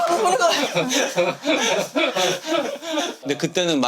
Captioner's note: shedding tears while congratulating